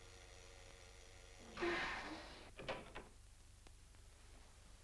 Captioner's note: hatch hisses shut